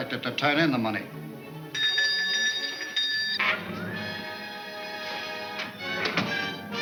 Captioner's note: dramatic orchestra music; bell ringing